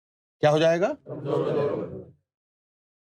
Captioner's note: audience repeats